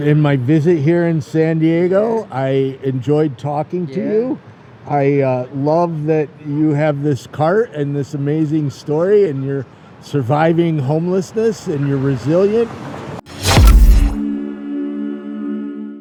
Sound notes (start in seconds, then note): 13.3 logo swooshing